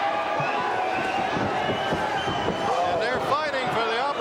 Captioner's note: crowd cheering